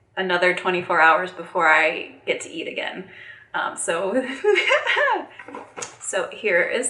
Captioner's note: laughing